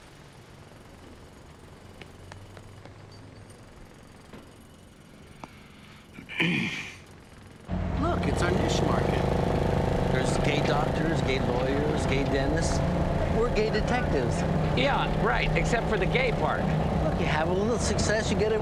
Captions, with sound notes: (clears throat) Look, it's our niche market. There's gay doctors, gay lawyers, gay dentists. We're gay detectives. - Yeah, right, except for the gay part. - Look, you have a little success,